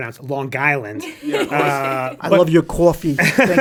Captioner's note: laughs